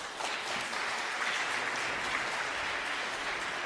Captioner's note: applause